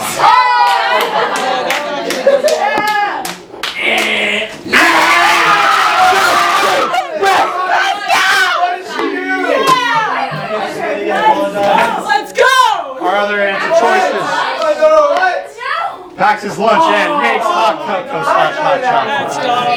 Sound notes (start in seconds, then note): 0.0 green team cheers; 1.6 withering cheer; 4.6 SCREAMS and CHEERS